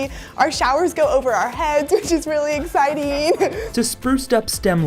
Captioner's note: laughs